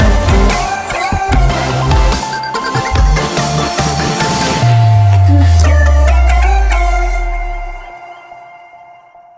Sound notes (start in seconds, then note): 3.2 whooshing